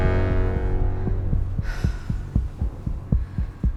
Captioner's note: breathing heavily